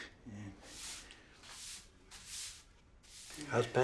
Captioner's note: sweeping